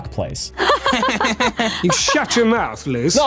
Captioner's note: badly acted laughing